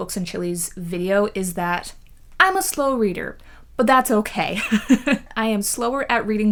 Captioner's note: laughs